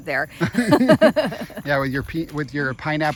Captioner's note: laughing